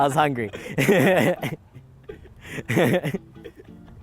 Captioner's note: laughs